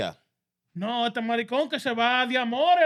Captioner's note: speaking In Foreign Language